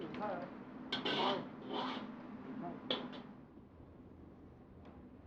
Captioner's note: speaking Chinese